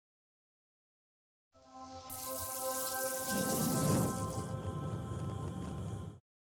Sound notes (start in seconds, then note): 1.6 bright electronic music; 1.8 flames whooshing